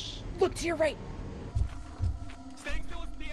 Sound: giant footsteps

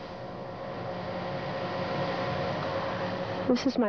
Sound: static buzzing

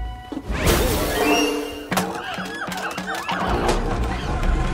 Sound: monkeys shrieking

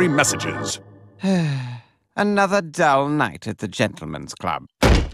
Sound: sighs

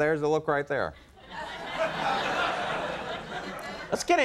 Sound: audience laughter

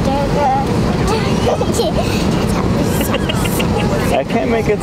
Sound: laughing

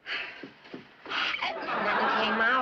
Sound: gasps; laughter

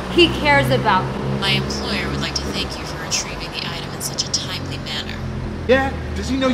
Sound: woman on phone

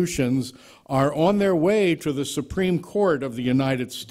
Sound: none

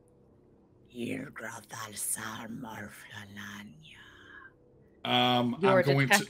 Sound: speaking foreign language

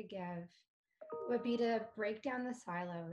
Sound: computer chiming

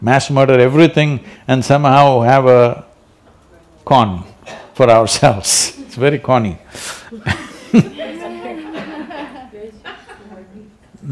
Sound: laughter

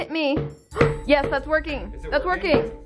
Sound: hammer banging

